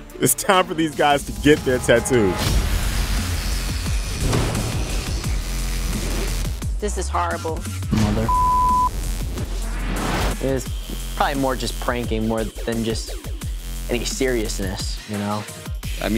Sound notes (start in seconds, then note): 4.0 tattoo machine buzzer